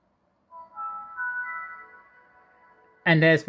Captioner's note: windows startup sound